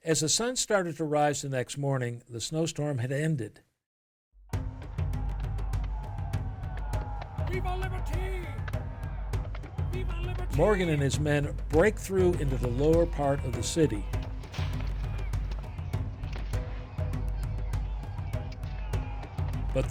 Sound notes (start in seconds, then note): 6.7 men shouting, "Vive la liberté!"; 14.1 gunfire sounds